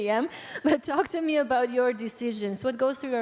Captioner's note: laughter